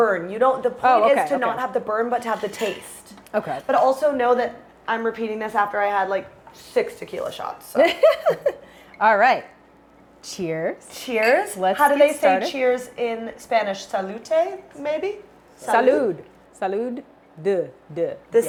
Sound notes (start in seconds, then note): 7.8 Brandi chuckles